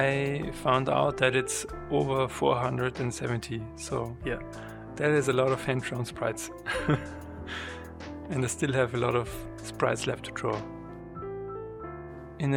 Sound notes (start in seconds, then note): 6.7 laUgHs